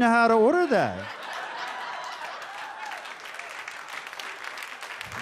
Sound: audience laughs and claps

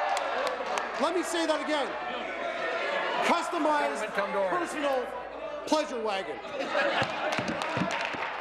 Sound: applause

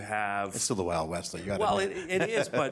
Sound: laughs

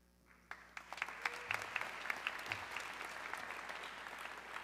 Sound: audience clapping

